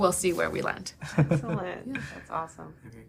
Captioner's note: laughing